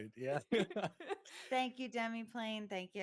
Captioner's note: all chuckling